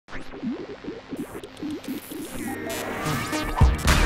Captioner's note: radio tuning; upbeat music